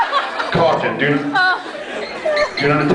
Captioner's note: laughs; scattered laughs; off mic; scattered laughs